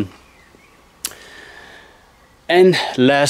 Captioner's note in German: Vögel zwitschern